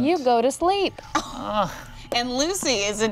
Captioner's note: Nox groaning